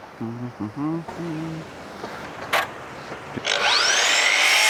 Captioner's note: drill whirring